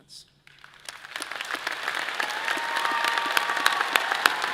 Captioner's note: all applauding